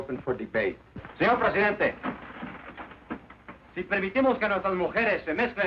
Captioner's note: man speaking Spanish